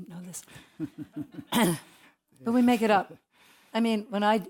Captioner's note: laugh